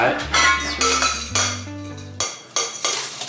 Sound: pot banging

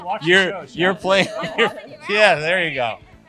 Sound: laughs

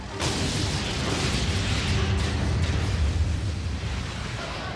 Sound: explosion

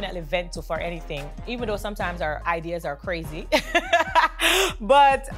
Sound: laughs

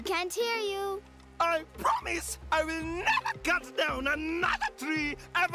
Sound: yelling

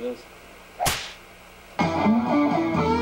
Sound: whip cracks; guitar riffs

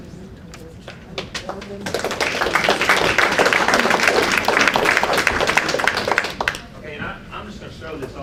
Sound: applause

